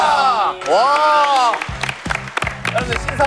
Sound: clap

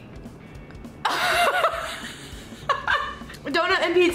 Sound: laughing

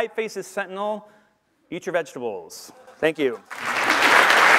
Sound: applause

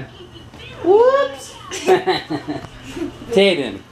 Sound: laughs

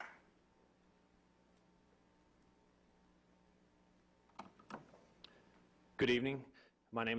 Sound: clapping

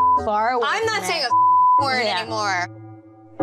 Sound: beep

